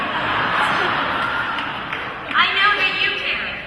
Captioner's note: laughter